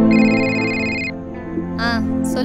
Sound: phone rings

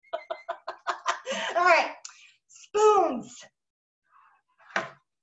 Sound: laughing

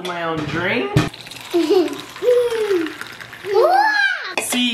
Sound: drink pouring

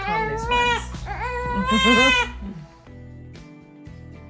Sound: laugh

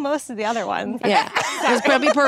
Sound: Ashley laughs

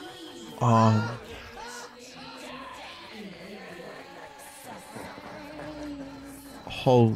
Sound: More Tidus laughs, accompanied by slowed-down gibberish; various unintelligible sound effects playing over each other

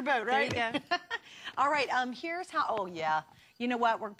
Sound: laughter

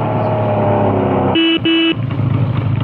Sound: engine Revving Down; horn

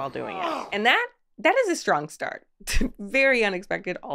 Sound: Charlie groans; scoffs

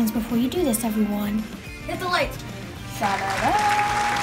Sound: applause

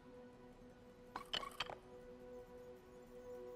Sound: tile bouncing; light apprehensive music

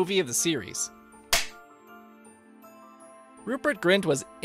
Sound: film clapper sound, lullaby music continues

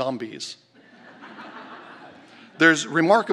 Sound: laughter

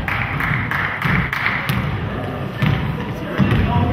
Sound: spectator claps

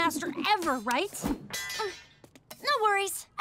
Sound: clanging

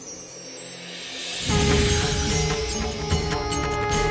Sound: conch blows

